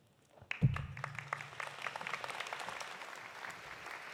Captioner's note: audience applauding